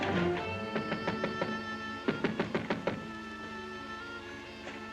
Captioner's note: dramatic music; knocking on door; ominous music